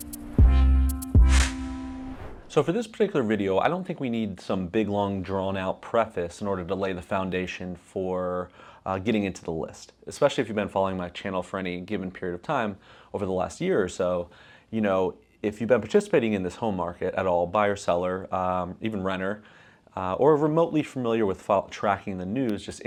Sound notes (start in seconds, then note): 0.0 rhythmic bass music; 1.2 air whooshing